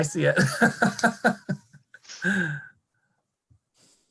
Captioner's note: laughing